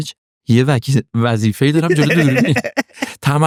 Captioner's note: laughs